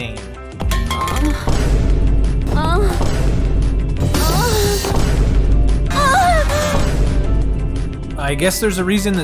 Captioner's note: sensual sounding series of “oh’s”